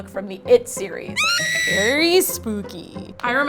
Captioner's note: woman screams